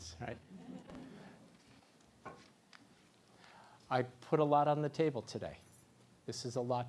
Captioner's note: laugh